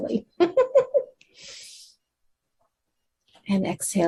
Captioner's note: chuckles